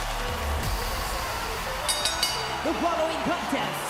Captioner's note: music plays; bell rings